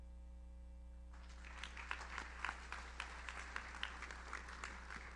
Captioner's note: audience applauds